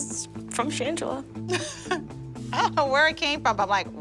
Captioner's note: laughs